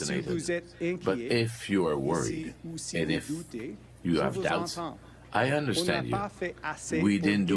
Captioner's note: speaking French